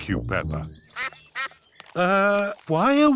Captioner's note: sucks quacking